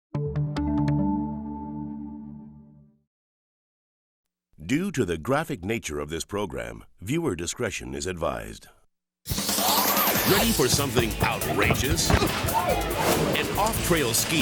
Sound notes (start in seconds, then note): 0.1 gentle upbeat music; 9.3 upbeat music; 11.9 body thumps; 11.9 person grunts; 12.1 image whooshes